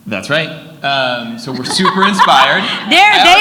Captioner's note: laughs